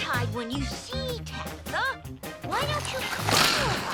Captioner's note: snot squishing